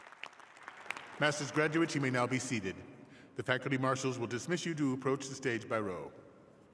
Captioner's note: applause